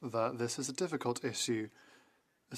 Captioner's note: speaking French